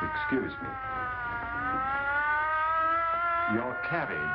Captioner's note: sirens; sirens in background